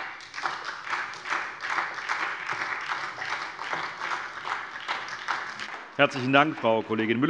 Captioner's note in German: Beifall SPD und vereinzelt DIE LINKE